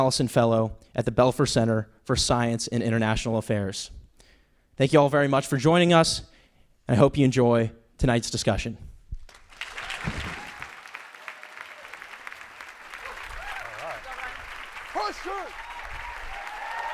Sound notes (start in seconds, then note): 9.2 applause